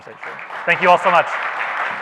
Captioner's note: audience applauds